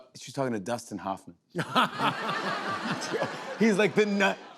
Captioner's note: laughter